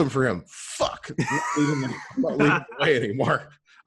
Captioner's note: laughs